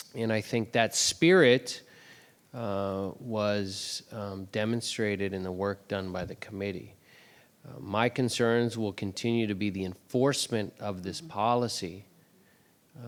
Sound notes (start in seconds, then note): none